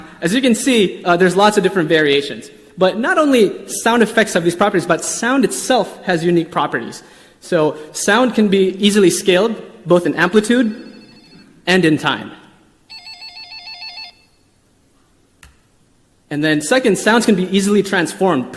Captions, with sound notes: As you can see, there's lots of different variations. But not only sound effects have these properties, but sound itself has unique properties. So, sound can be easily scaled, both in amplitude (quiet phone ringing) and in time (faster phone ringing). And then, second, sounds can be easily transformed,